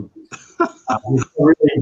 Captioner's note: laughs